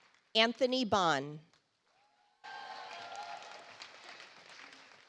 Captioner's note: audience applauds